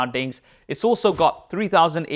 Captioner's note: air whooshes